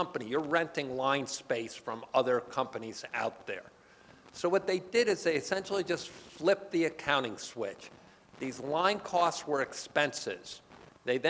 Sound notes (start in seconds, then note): none